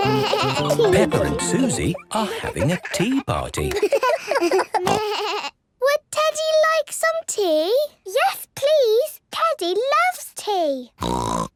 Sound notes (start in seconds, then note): 3.6 giggles, snorts; 11.0 snort